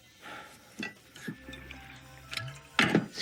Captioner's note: objects rattling on desk; liquid sloshing